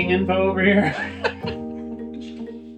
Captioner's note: laughing